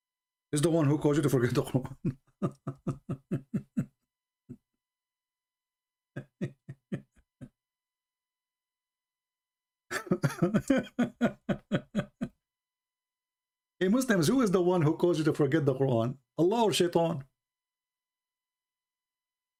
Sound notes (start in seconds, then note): 9.9 Ketawa